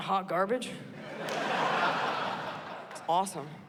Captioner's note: laughter